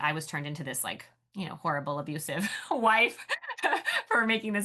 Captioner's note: laughs